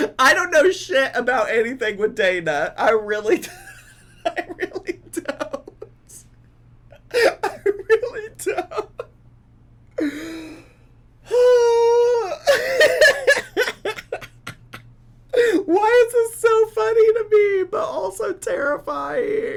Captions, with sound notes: I don't know shit about anything with Dana. I really don't, I really don't, (laughter) why is it so funny to me, but also terrifying.